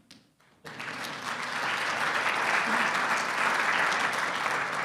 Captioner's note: audience clapping